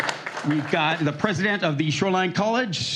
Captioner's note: applause